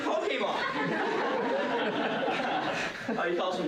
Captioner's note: laughter